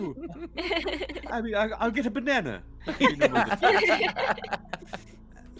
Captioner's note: laughs; Violette laughs; laughs